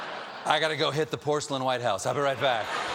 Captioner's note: laughter